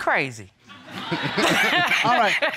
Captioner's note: all laughing